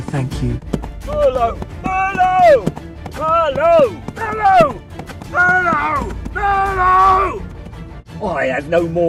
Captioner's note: shouting